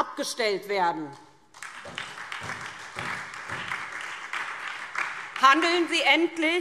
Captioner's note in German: Beifall SPD und DIE LINKE